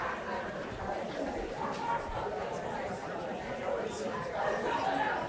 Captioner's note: audience chatter continues